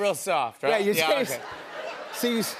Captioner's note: laughter